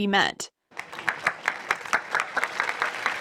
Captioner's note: applause